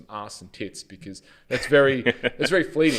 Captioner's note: laughs